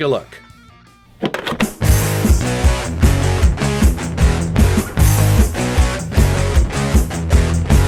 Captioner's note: cassette clangs; intense rock music